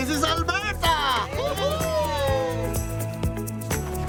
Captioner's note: cheering